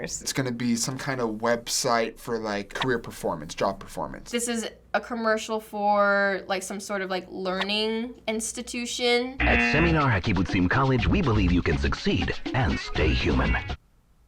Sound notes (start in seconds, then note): 9.4 buzzer; 9.7 voice-over